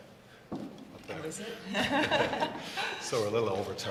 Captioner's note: laugh